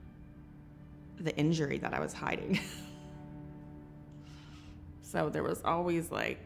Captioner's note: chuckles